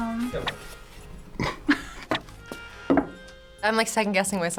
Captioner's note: both laugh